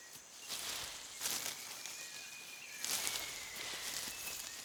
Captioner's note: leaves rustle